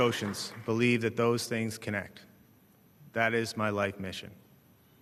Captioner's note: applause